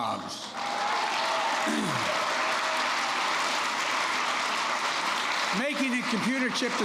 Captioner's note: applause